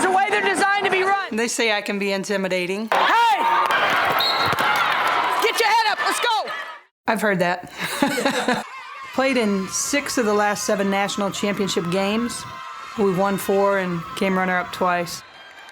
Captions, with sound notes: the way they're designed to be run! They say I can be intimidating. Hey! (whistle blowing) Get your head up let's go! I've heard that. (laughing) (cheering) We played in six of the last seven national championship games. We've won four and came runner-up twice.